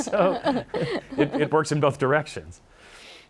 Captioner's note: laughing